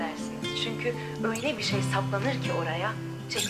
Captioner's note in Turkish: Kadın radyo ses